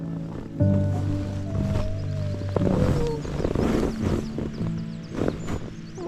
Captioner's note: morning rustling and squeaking; birdsong